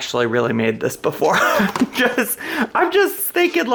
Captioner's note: laughs